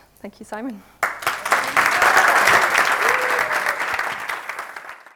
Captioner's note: audience applauds